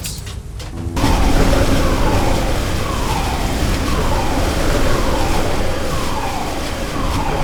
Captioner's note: machinery roaring; alarms sounding